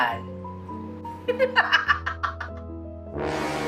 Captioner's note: laughing maniacally; eerie music playing